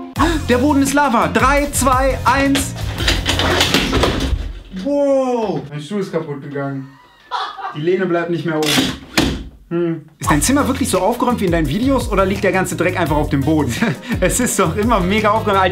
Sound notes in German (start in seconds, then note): 6.6 Lache in Hintergrund; 8.6 Stuhl Geräusche